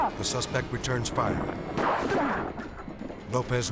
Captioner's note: gun firing